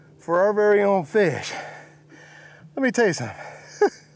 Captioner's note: laughs